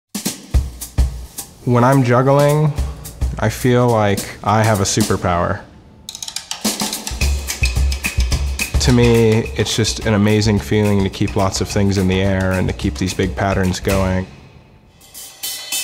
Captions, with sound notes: (energetic music) - [Voiceover] When I'm juggling, I feel like I have a superpower. To me it's just an amazing feeling to keep lots of things in the air and to keep these big patterns going.